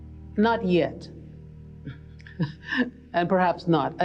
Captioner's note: laughs